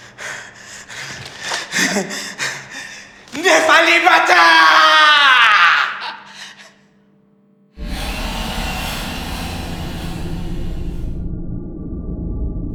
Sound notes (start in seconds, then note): 3.5 speaking in foreign language